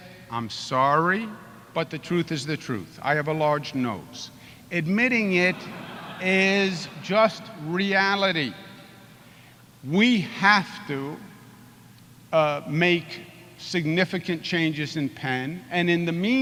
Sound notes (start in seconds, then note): 5.4 laughter